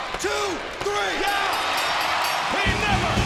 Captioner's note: bell rings